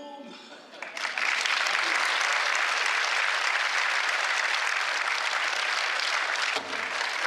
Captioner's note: applause